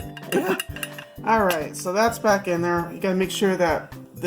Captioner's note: laughs